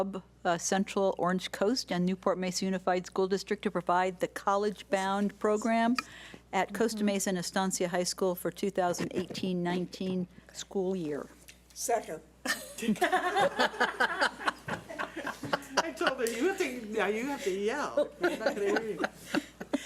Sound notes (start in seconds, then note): 12.5 laughing